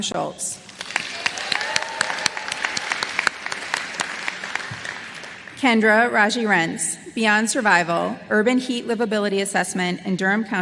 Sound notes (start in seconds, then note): 3.9 applause